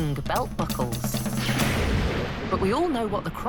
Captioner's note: thunder